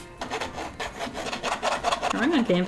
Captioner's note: pencil scraping on canvas